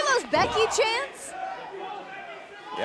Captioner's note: fans chanting